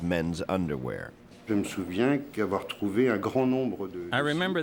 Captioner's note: speaks in foreign language